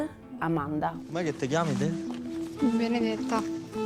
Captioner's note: in Italian